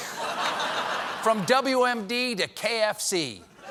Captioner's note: laughter